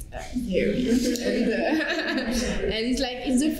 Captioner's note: laughter